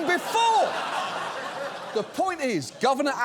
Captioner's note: audience laughs